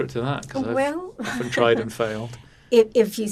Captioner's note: laughing